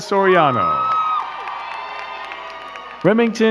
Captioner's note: crowd cheering and clapping